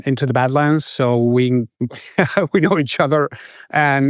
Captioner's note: laughs